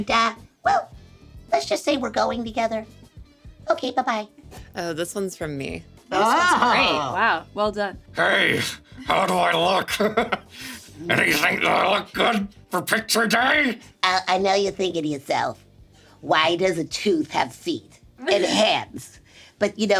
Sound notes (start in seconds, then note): 6.4 chuckles; 9.0 laughs; 18.2 Sarah laughs